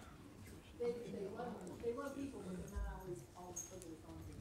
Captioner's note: speaks off microphone